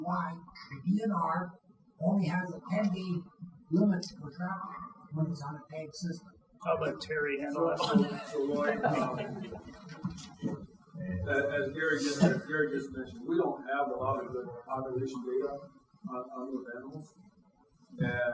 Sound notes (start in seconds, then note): 7.7 chuckling